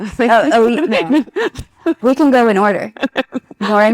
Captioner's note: participant laughs